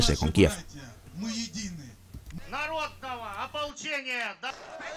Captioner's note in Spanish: Discursos,aplausos